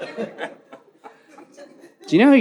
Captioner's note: audience laughs